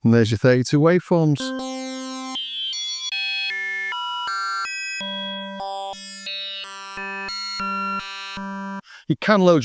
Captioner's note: beep